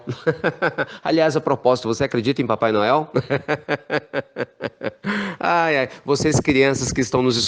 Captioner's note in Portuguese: risos; risos